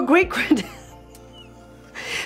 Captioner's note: chuckles